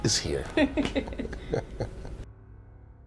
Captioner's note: laughter